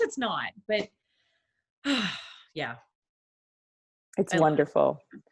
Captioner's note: sighs